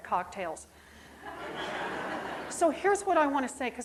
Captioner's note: audience laughing